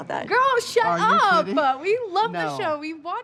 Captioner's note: none